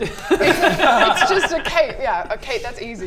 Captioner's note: economical laughter